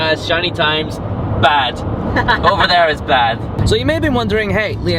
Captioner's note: laughing